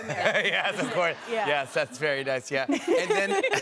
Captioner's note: laughing; laughter